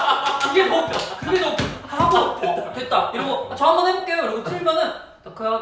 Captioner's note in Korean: 박장대소